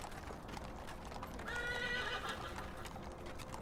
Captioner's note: horse whinnies